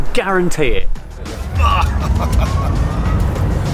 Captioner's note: laughs